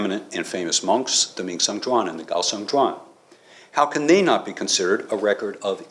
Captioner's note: non-english; non english